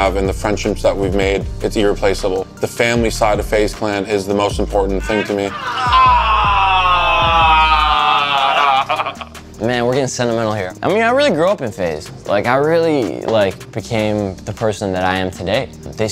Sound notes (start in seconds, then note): 8.8 laughs